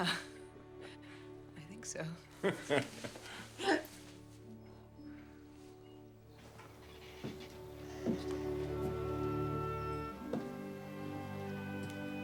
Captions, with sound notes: - Yeah, I think so. (Jack laughing) (tranquil music)